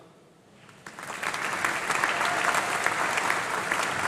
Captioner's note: applause